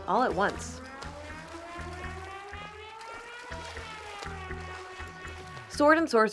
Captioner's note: water splashing